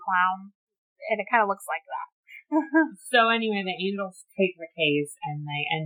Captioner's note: laughs